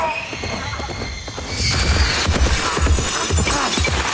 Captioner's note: screaming